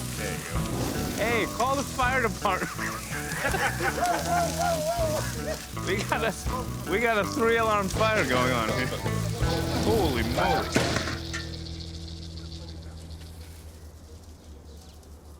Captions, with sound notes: Hey, call the fire department. [laughter] We got a three alarm fire going on here. Holy moly.